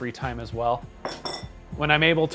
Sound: clink

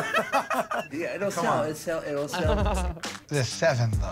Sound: Joe and Q laugh; laughs

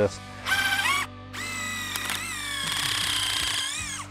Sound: drill revving

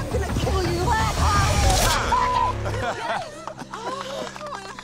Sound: gasp

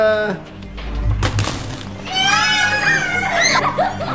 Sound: crunch; screams; laughter

